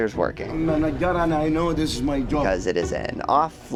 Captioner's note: Arabic